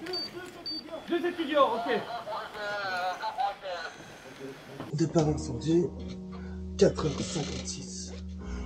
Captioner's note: radio messages